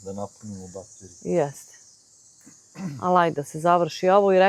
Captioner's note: coughs